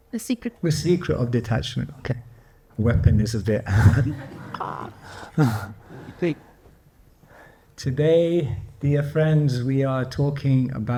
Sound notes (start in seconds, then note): 3.7 laughs